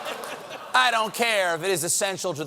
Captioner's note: audience reacts